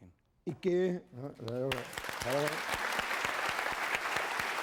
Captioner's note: applause